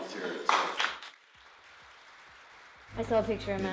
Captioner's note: clapping